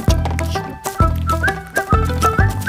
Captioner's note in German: pfeift fröhlich